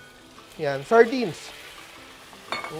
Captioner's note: sizzles